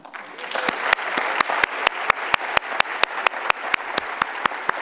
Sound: audience applauds

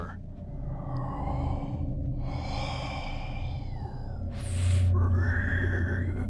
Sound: faint growling

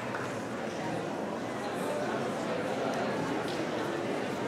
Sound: audience chattering

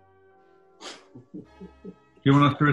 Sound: chuckling

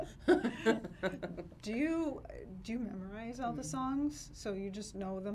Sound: laughs

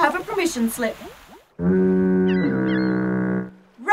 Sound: fog horn blows, seagulls cry

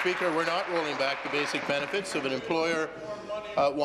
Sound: applause

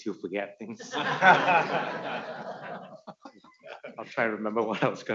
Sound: audience laughing

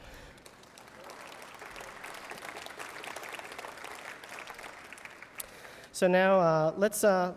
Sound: applause

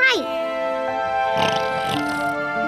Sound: snoring

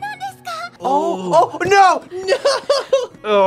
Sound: laughs

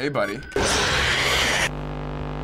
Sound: in game: growl

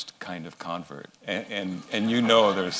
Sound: laughter

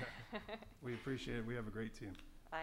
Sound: laughs

